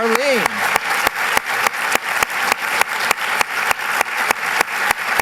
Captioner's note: applause